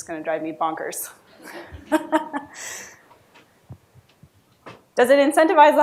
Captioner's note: laughs